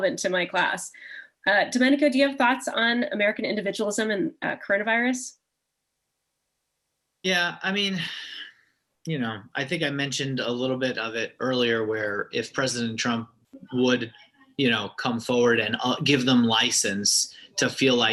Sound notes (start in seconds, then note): 7.9 sigh